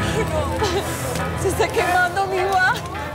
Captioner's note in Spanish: Sollozos